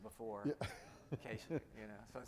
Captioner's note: laughing